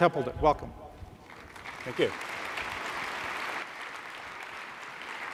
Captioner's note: applause